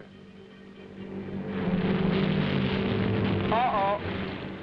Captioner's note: plane droning